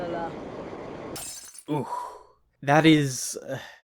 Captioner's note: in-game audio; glass shatter sound